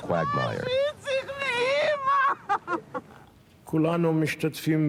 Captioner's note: crying